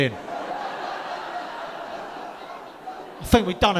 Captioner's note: audience laughing